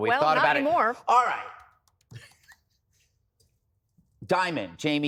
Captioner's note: laughter